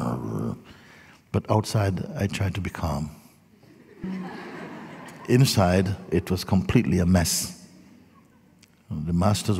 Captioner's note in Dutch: gelach